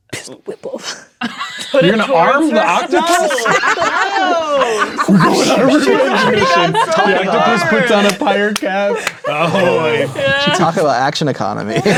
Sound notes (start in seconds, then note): 3.9 players laughing; 6.2 players talking and laughing